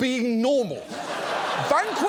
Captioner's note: studio audience laughs